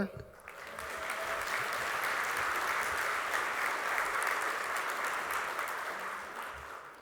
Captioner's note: applause